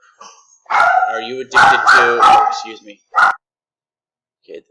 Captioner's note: dog barking